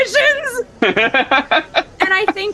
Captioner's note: laughter